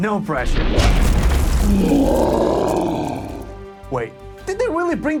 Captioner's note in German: Troll schlägt knurrend gegen die Tür